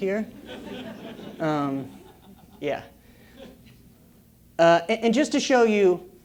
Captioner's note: laugh